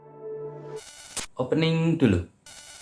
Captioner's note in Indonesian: suara interferensi; suara interferensi